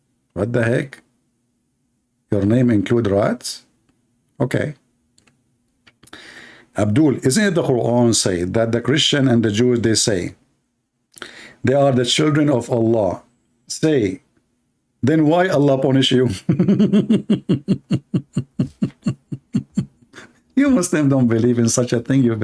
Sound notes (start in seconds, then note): 16.3 Ketawa